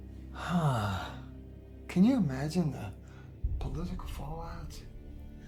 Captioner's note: sighing